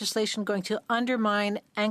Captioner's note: speaking French